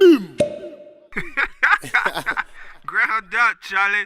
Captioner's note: laughter